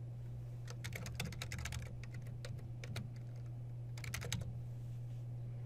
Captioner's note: typing